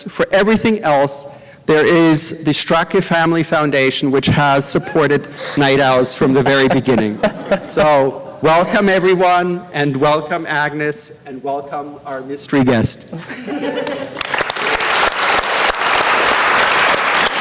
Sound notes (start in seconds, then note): 13.1 laughter; 13.8 applause